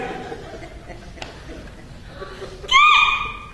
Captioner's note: Kik stands weeping